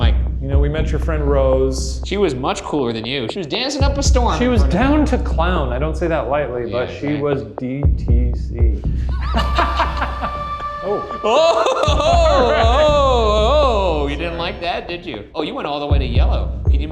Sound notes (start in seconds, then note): 9.1 laughing; 11.8 REM pod blaring